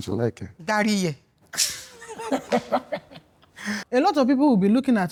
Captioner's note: laughing